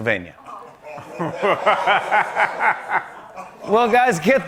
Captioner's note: laughter